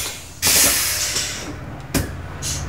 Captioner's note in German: Quietschen